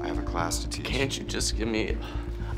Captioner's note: sighs